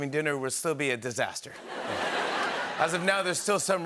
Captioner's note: laughter